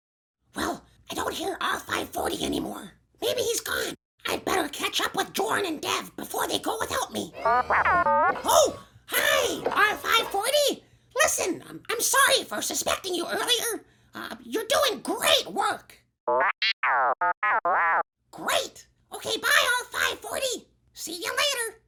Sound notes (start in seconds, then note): 16.3 R5-40: arrogant beeps